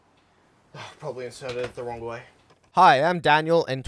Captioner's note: sigh